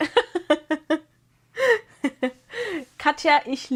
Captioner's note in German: gelächter